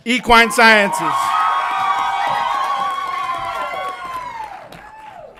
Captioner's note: audience applauds and cheers